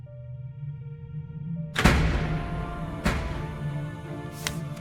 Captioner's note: distant Doors Bang Open!